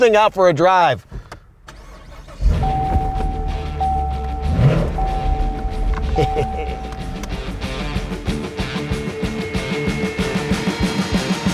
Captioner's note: engine start